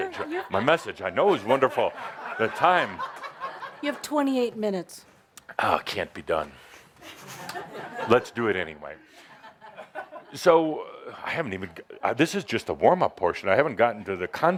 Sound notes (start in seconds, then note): 0.0 laughter